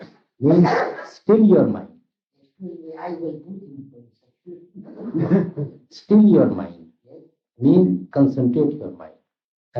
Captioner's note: laughter